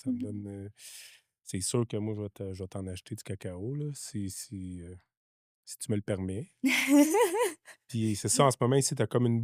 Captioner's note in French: rires